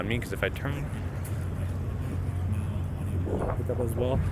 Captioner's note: speaking faintly